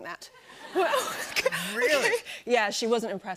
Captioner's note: laughter